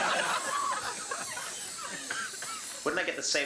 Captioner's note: audience laughing; air hissing